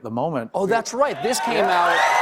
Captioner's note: cheers and applause